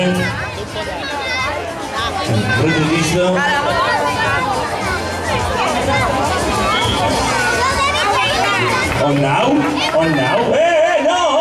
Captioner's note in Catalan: Se sent un xiulet